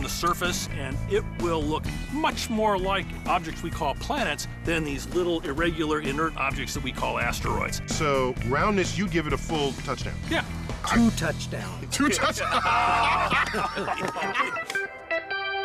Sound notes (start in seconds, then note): 11.9 all laughing